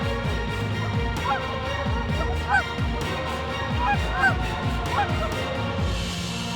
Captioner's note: goose calls